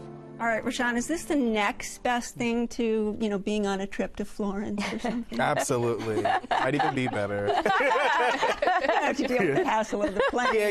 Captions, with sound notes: -Alright, Rashawn, is this the next best thing to, you know, being on a trip to Florence or something? -Absolutely. Might even be better. [ All laugh ] -You have to deal with the hassle of the plane.